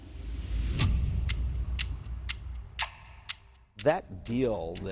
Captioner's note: clock ticking